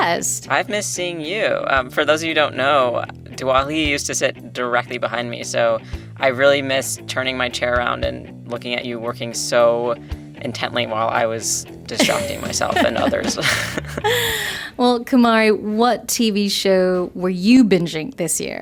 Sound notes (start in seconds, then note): 12.0 laughter